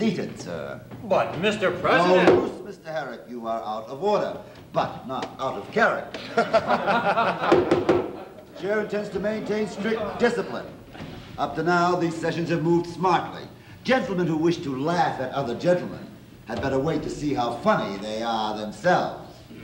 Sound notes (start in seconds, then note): 6.1 laughing